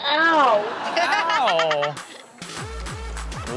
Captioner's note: Chanel laughs; upbeat music